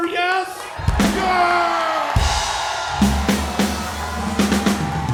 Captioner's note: crowd cheers cathartically